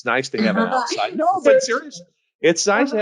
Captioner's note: laughs